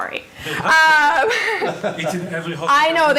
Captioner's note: laughing